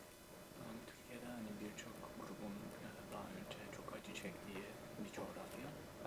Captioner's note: translator speaks in Turkish